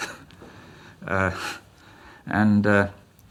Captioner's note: laughs